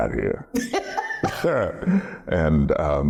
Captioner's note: laughing